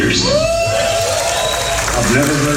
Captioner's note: audience cheering